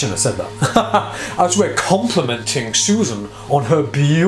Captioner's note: laughs